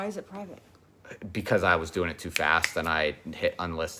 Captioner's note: snapping fingers